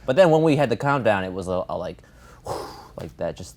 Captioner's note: sighs